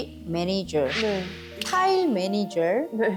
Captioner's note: changing the song because of copyright sound effect